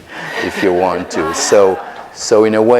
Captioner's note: audience laughter